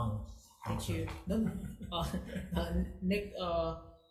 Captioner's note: laughing